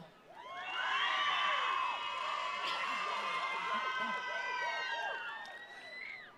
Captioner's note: attendees cheering; attendees applauding